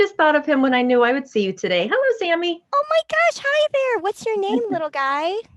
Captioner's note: as finger puppet